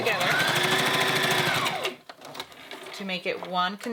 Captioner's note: sewing machine running